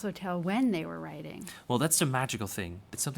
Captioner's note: voiceover